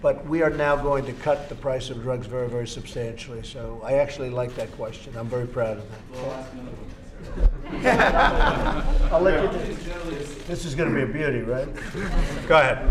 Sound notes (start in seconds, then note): 7.6 laughter; 11.7 laughter